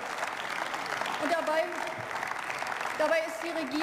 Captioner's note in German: Beifall